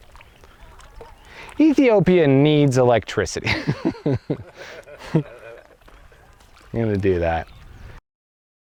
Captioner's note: laughing